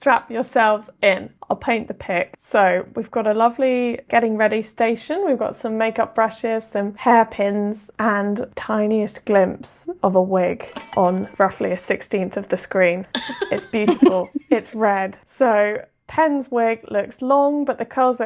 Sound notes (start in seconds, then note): 10.7 bell ringing; 13.1 laughing